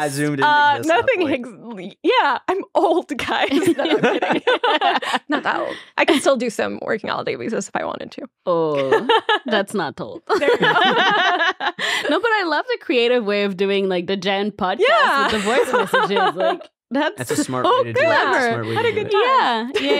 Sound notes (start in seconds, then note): 3.4 all laughing; 10.2 all laughing; 10.3 laughing